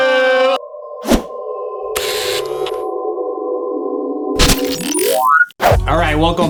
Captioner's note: ominous music; screen whooshes and buzz